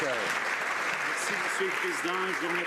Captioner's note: some Applause